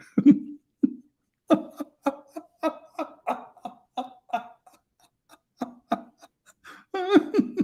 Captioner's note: Ketawa